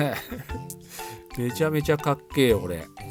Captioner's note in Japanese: 笑い